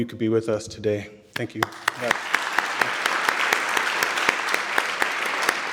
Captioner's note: audience clapping; clapping